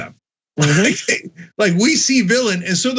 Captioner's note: laugh